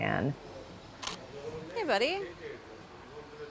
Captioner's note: camera clicks